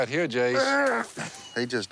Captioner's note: throwing up